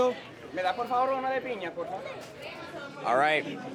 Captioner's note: speaking Spanish